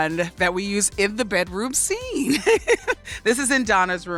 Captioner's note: laughs